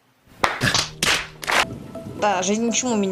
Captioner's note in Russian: много звуков фейспалма; звук фейспалма